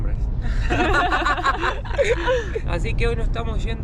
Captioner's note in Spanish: Risas